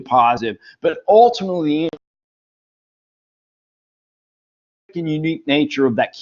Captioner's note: audio cuts out